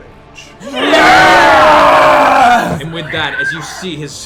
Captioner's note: cheering